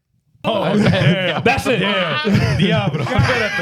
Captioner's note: speaking In Foreign Language